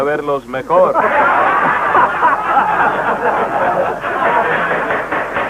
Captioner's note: laughter